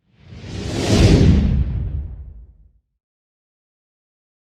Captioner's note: air whooshing